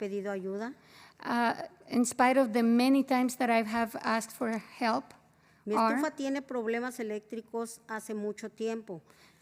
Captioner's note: spanish